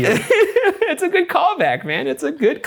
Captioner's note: laughs